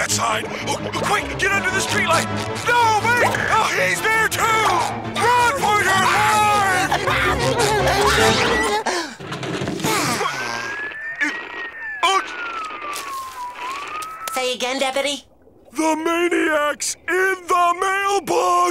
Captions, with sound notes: Oh, quick! Get under the streetlight! No, wait! Oh, he's there, too! Run for your life! [screams] [sighs] [radio cutting out] Say again, deputy? The maniac's in the mailbox!